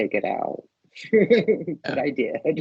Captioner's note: laughing